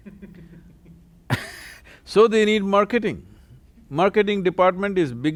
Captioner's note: laughter